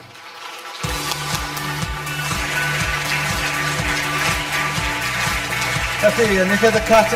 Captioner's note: audience applause; upbeat music